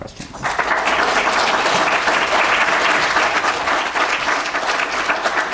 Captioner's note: applause